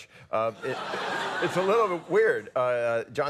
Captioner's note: audience laughs